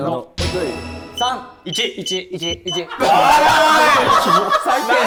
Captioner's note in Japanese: スタッフ：笑い